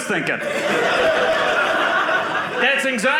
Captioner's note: audience laughing